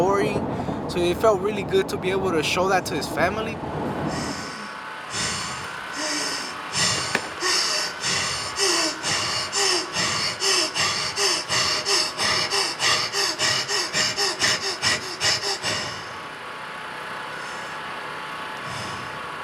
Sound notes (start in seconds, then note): 4.0 desperate breathing